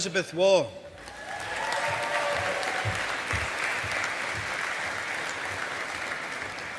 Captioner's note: audience applauding